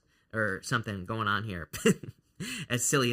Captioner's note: chuckles